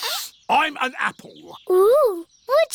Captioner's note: sniffs